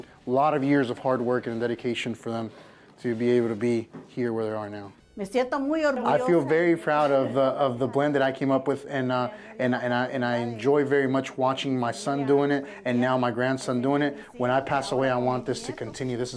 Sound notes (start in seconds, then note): 5.1 in Spanish